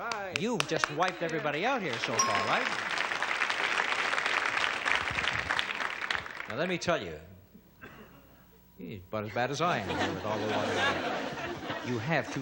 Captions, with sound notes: -All right. -You've just wiped everybody out here so far. (audience cheers) Now let me tell you. He's about as bad as I am with all the water on him. (audience laughing)